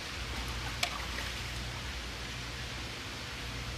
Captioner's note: splashing